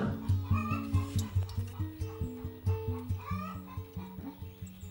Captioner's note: chicken clucking